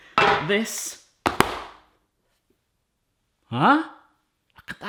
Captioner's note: pan clanking